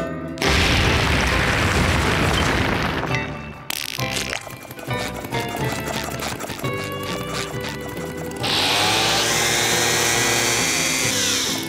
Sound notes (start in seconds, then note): 4.0 shoes squeak; 8.2 reef blower blows